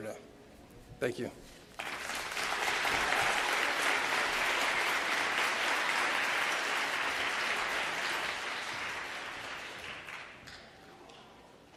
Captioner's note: applause